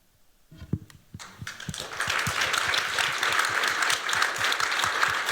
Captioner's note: applause